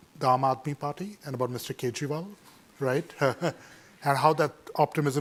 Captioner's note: laughs